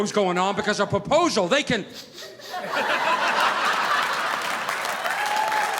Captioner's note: sniffing; audience applauding